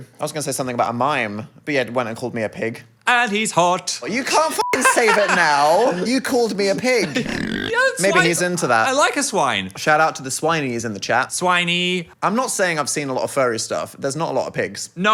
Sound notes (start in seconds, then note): 4.6 beep